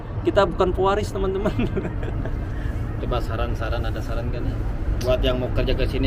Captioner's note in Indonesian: tertawa